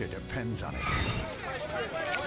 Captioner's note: chattering